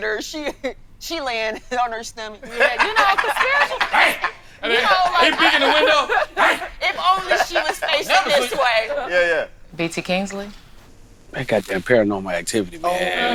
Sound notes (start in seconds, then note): 4.3 group chatting; 12.8 group agreeing